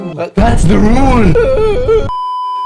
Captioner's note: beeeeeeeeeeeep; reluctant adoptive dad whimpers